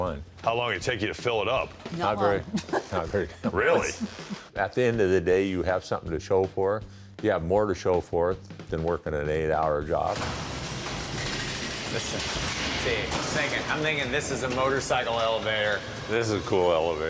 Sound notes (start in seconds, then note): 2.3 chuckles; 9.9 giggles; 10.2 elevator rumbling